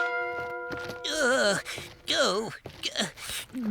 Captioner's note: grunting